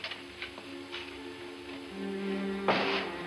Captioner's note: door thuds